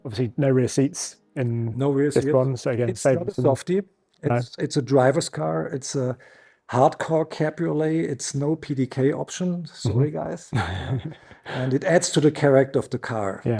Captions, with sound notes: Obviously no rear seats - No rear seats. It's not a softie. it's a driver's car. It's a hardcore Cabriolet, it's no PDK option. Sorry, guys. (chuckles) And it adds to the correct of the car.